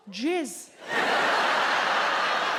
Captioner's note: audience laughs